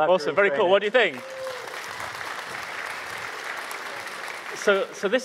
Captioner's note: audience applauding